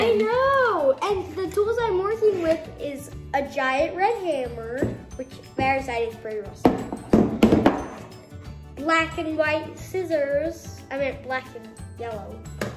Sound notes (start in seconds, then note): none